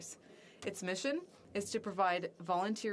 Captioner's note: speaking French